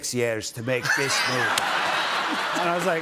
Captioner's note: laughter